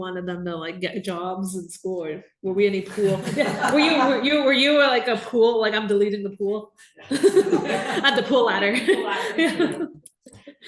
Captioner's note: laughter